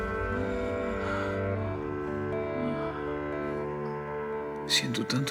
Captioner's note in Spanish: Sollozos